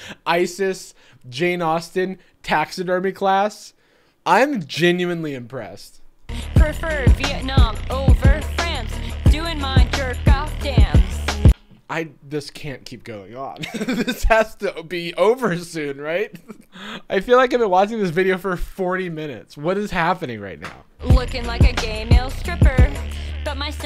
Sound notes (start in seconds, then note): 13.6 laughing